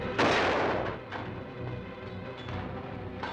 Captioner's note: gun firing